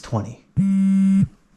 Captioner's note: phone buzzes